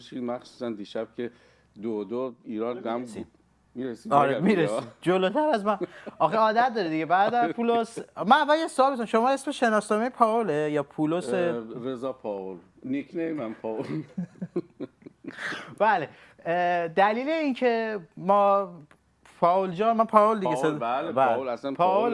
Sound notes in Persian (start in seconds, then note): 13.8 خنده; 13.8 گلویش را صاف می‌کند